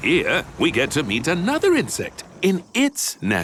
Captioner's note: none